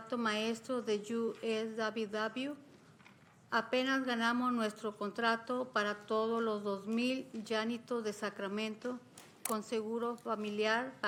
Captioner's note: speaking spanish